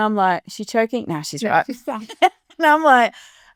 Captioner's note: chuckling